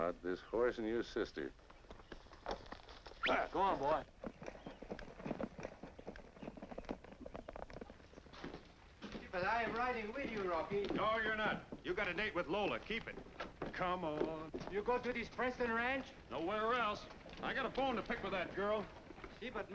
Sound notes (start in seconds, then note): 5.5 hooves beating